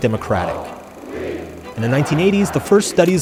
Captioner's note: crowd chanting